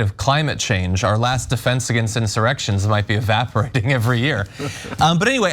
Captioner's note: laugh